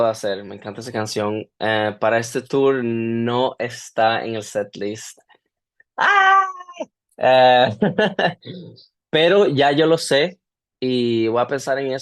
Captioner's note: gasps; laughter